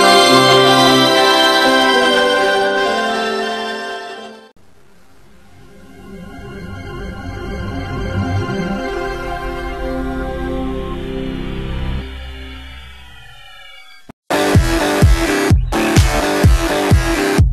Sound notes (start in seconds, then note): 5.3 Windows NT 4.0 shutdown sound; 14.3 dance music playing